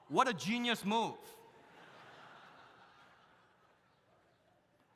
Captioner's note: audience laughs